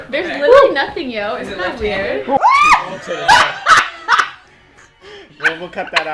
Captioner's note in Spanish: Risas